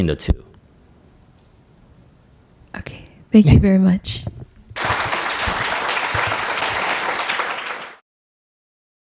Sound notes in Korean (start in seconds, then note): 4.7 청중 박수